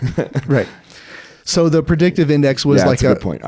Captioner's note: laughing